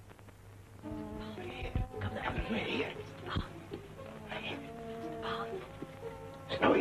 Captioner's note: whispering